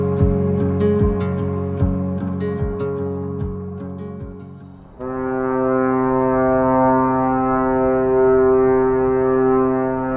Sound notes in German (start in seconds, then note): 4.7 Schiffshorn